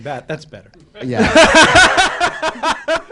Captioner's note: laughter